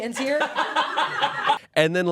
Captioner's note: everyone laughs